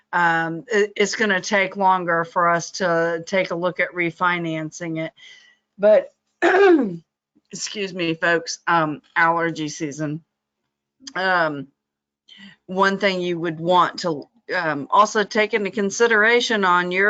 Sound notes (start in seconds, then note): 6.4 clears throat